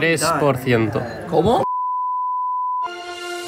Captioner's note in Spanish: Pitido